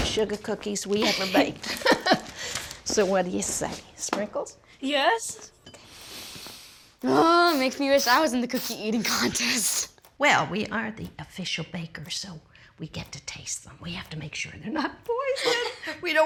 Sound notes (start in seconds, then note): 1.0 chuckles; 7.1 sniffs